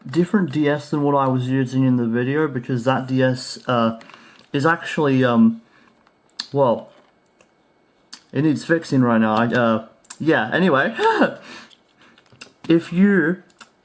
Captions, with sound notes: Different DS than what I was using in the video because that DS uh... is actually uhm... well... It needs fixing right now! yeah. anyway [laughs to herself] If you,